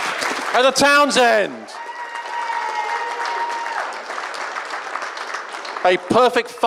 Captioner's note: audience cheering